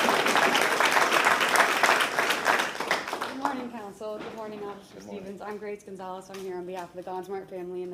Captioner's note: applause